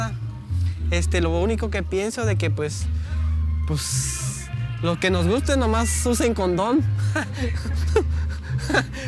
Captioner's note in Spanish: risa